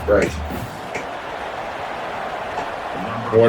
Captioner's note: crowd Noises